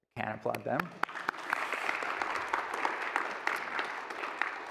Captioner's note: applause